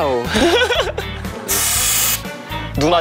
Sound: spraying

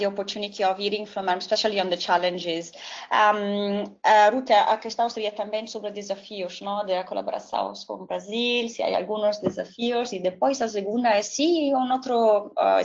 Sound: speaking another language

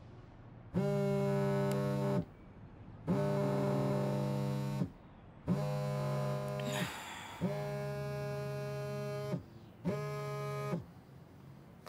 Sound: phone buzzing

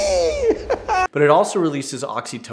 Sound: laughter

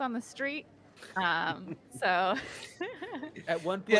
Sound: chuckling

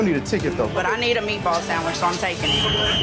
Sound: whistle

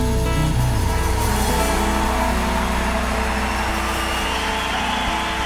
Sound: crowd cheering and clapping

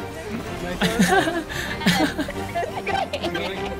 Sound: laughs

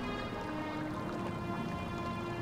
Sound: water bubbling

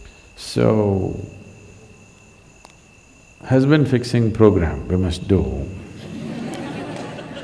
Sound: laughter

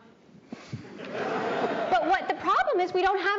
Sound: audience laughing

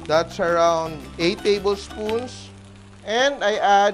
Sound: sizzles; sizzle

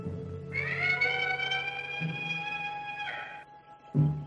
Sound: peacock screams

